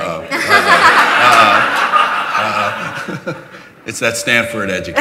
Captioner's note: laughter